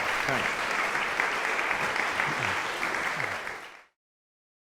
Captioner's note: applause